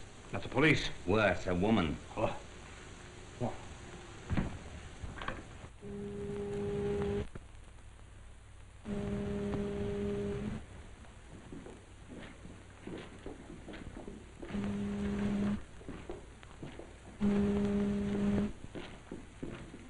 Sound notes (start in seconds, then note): 6.0 ship foghorn, in the background, repeatedly